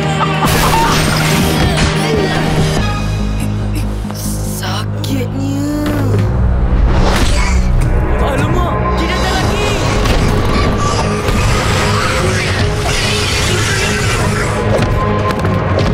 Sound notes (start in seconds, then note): 12.5 angry quacking